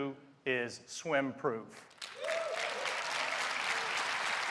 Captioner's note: applause